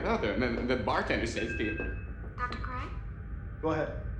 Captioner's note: device chimes